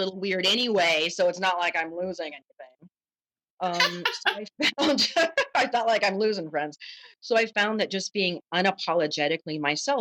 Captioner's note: laughter